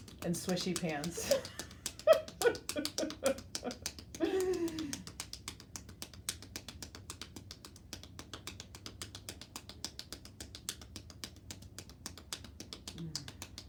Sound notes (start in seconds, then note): 1.0 laughs; 4.6 hands tapping